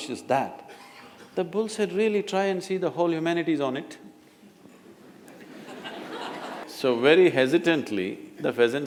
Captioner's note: laughter